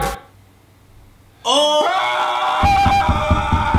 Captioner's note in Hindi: चिल्लाना